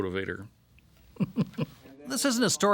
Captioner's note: chuckling